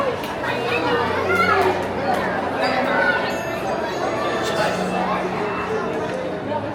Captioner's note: people chatter